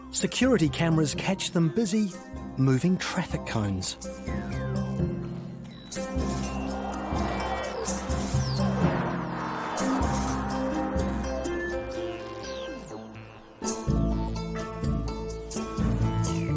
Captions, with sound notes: security cameras catch them busy moving traffic cones. (car horns blaring) (mischievous music)